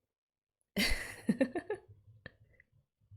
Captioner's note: laughs